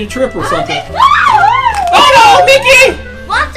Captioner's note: Mickey yells